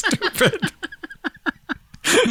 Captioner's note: laughter